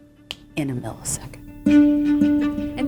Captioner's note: snaps